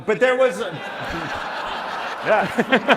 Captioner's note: laughter